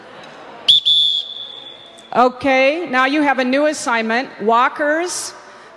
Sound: whistle blows

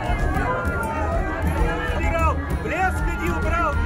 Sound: cheerful roar of a crowd

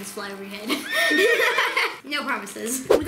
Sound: unicorn whinny

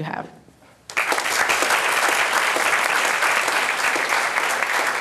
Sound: applause

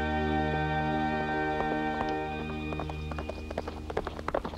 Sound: hooves clomping

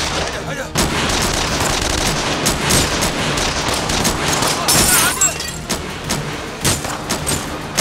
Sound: gunshots continue

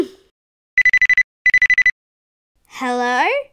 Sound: phone ringing

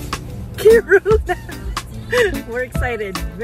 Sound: laughter

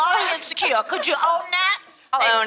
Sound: laughs

